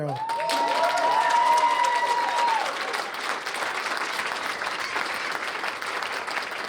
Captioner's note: cheers and applause